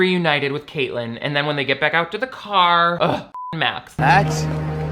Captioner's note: beep